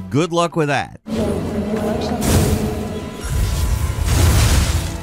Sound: action fights banging

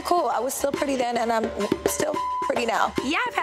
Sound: beep

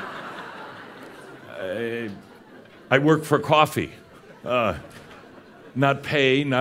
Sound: laughter

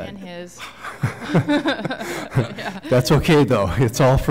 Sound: laughter

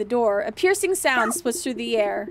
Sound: dog barking

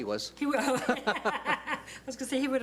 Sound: laughs

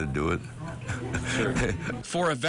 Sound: laughs

